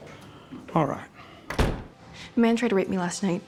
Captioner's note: door shuts